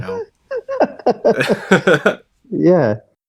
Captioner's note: laughs; both laugh